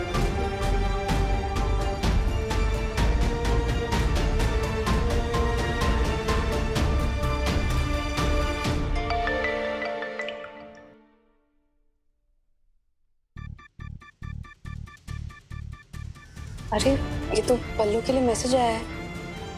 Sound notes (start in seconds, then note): 8.8 phone beeps